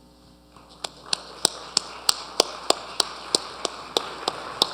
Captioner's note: audience applauding